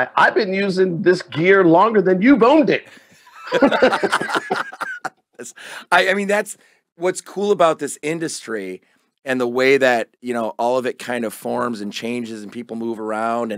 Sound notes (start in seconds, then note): 3.2 both laugh